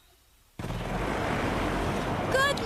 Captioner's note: engine roars